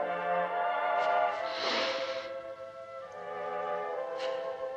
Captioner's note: both Gasp